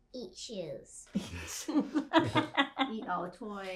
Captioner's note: laughing